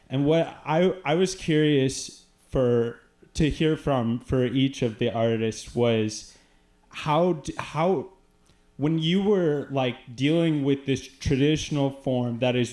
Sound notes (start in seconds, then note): none